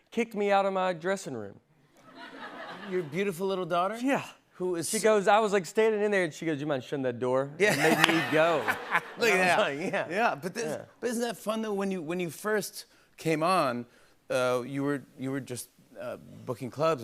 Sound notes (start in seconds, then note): 7.6 laughter